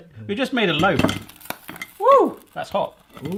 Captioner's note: toastie sizzling